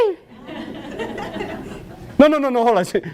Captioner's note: audience laughs